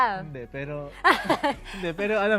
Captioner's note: laughs